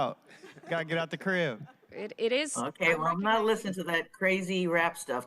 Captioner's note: laughter